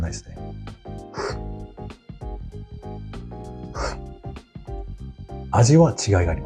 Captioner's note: slurps